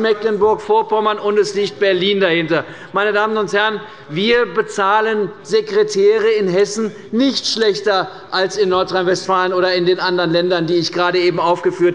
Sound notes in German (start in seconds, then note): none